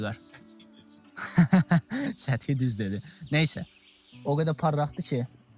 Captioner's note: laughs